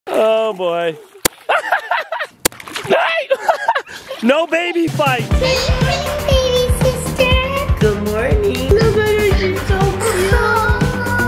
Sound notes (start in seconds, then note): 1.4 laughs